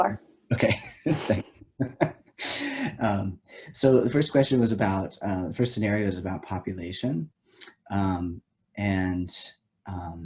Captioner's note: laughs